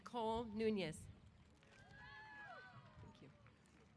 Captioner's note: applause & Cheers